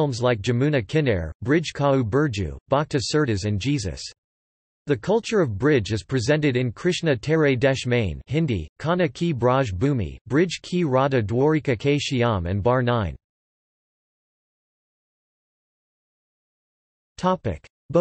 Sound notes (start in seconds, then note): 8.3 Hindi